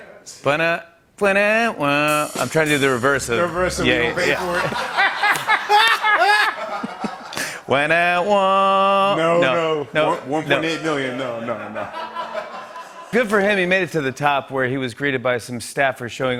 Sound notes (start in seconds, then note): 4.2 laughter; 5.3 clapping; 11.2 laughter